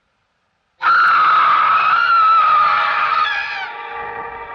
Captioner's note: screaming